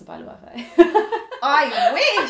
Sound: laughing

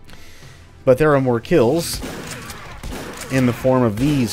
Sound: Bugdogs snarl, Shotgun blasts ensue

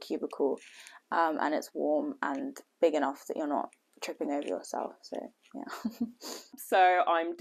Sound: laughter

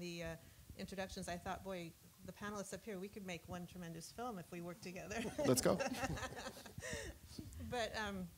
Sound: laughter

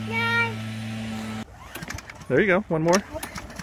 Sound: engine starting

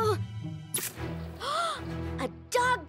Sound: gasping

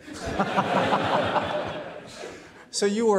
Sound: everybody laughs

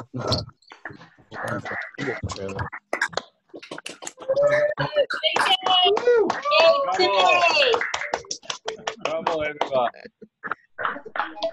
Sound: audience cheers and claps

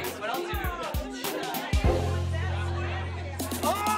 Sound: indistinct chatter; yells

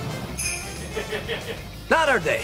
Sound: chuckling

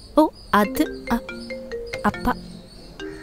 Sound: cellphone ringing

